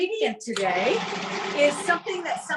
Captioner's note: blender whirring